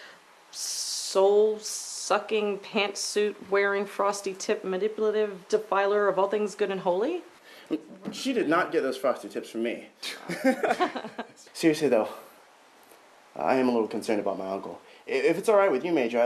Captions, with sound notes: soul sucking, pantsuit wearing, frosty tip, manipulative defiler of all things good and holy? She did not get those frosted tips from me. [laughter] Seriously, though, I am a little concerned about my uncle. If it's all right with you, Major,